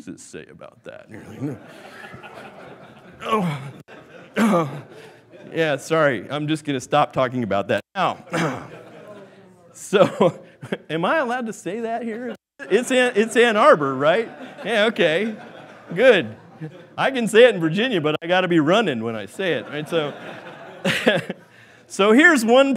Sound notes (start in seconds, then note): 2.6 laughing; 4.2 coughing; 8.2 coughing; 19.5 laughing